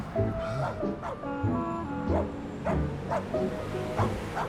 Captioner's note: dog barking